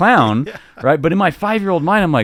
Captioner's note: laughing amusingly